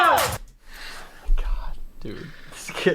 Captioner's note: whispers